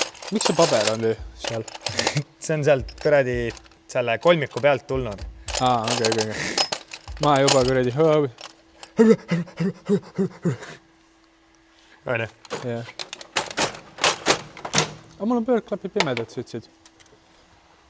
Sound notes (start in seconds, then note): 8.8 stress noises